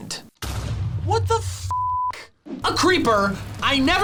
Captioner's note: beep